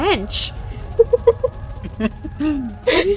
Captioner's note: laugh